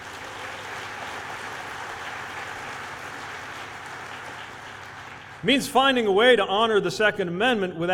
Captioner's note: applause